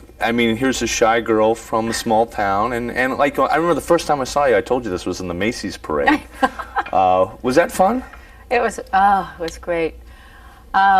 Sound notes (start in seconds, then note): 6.1 laughing